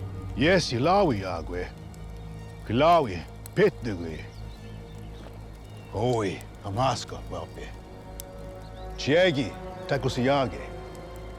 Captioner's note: speaking shawnee